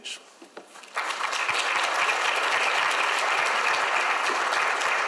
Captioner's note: audience applauds